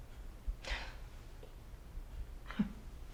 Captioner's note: exhales; chuckles